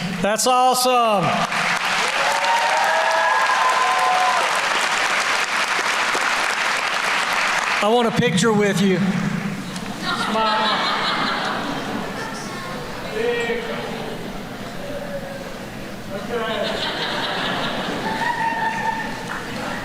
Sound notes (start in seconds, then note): 1.2 applause; 10.0 laughter